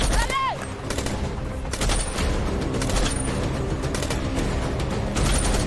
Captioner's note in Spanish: Disparos